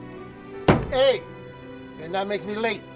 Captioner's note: loud thud